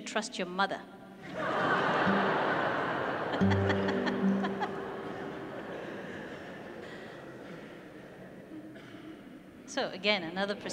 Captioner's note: loud audience laughter